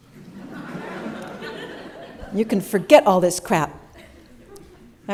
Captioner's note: laughter